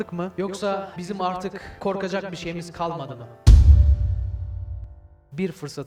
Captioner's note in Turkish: Yankılı bir sesle; Gümleme sesi